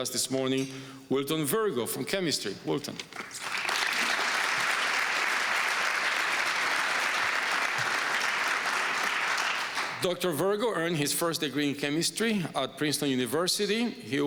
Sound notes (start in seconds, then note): 3.1 applause